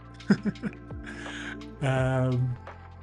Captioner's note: laughs